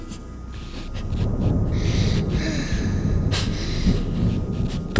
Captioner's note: mother Sobs